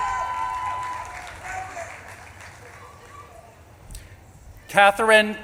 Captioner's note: audience claps and cheers; audience member shouting